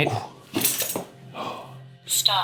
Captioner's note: chain rattling